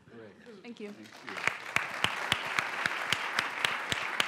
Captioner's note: applause